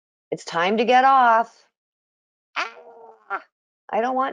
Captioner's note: imitates baby yelling